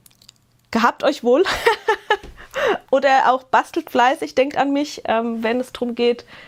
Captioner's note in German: Gelächter